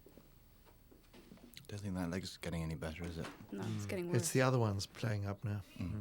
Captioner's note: door Opens